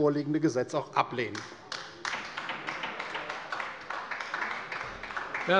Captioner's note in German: Beifall bei der LINKEN